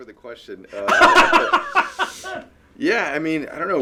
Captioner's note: laughing